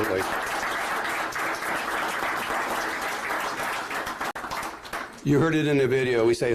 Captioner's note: applause